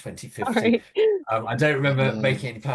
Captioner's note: laughs